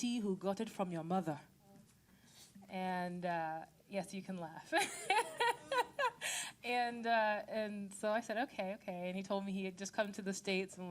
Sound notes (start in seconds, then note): 4.8 laughing